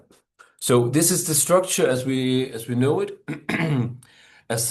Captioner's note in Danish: clears throat